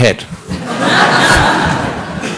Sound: laughter

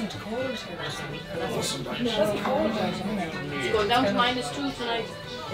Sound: none

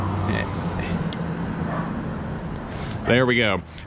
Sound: charge port popping

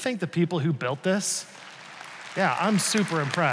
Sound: congregation applauds

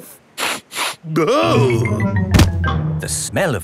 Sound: sniffs and groans

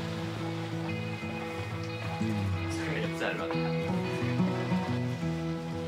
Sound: chatting quietly

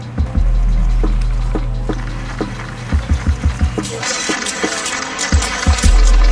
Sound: cameras snapping photos

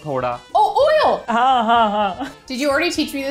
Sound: speaking in Hindi

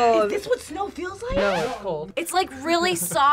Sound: record scratches

